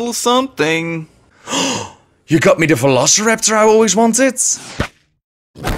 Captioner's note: gasp